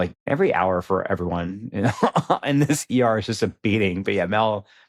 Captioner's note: chuckles